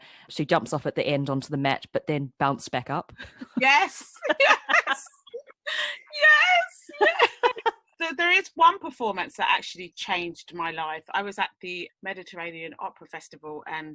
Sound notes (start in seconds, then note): 4.0 laughs